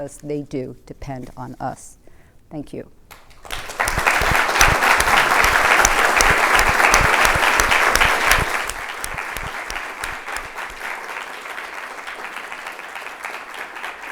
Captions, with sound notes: they do depend on us. Thank you. [APPLAUSE]